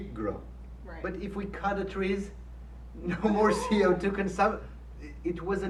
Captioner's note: laughs